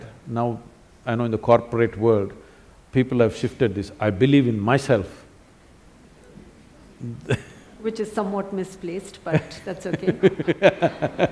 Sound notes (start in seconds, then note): 7.1 laughs; 9.8 both laugh